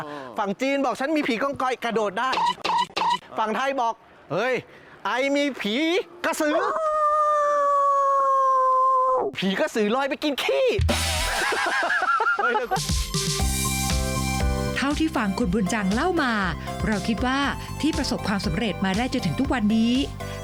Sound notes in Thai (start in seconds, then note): 11.0 เสียงหัวเราะ